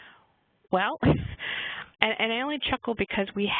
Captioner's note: chuckles